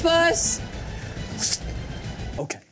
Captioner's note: Odie whistles